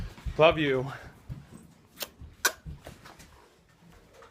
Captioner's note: kissing